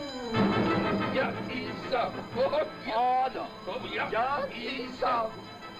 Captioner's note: speaking in foreign language